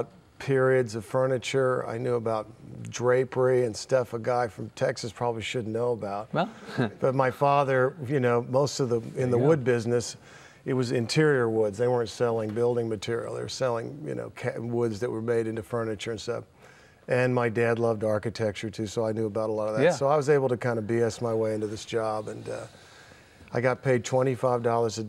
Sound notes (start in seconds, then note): 6.4 laughing